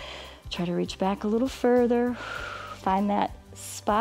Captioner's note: inhales; exhales